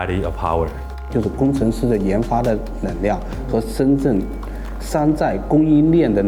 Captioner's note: speaker speaking in foreign language